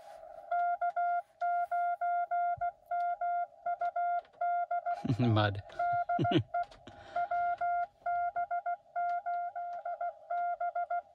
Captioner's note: mud, chuckle